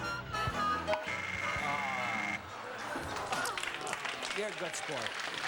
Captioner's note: buzzer buzzes